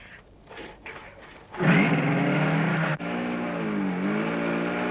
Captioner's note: engine roaring